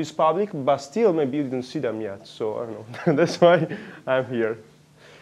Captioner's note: laughs